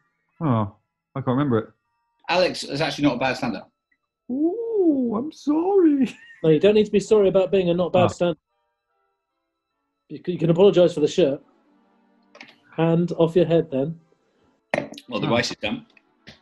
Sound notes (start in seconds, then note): 4.0 falsetto